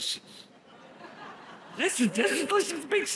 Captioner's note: audience laughs